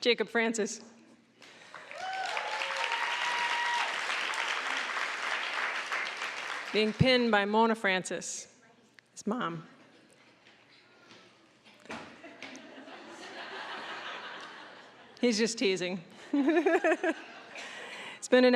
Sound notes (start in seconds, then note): 1.5 applause, cheering; 12.2 audience laughing; 16.3 laughing